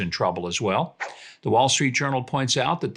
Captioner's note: air whooshes